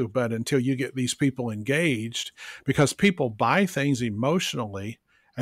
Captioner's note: none